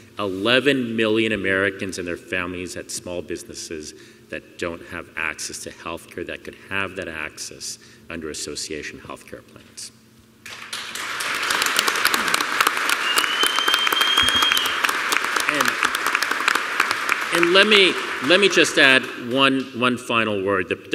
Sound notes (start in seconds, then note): 10.4 applause